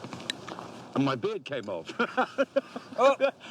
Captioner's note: laughing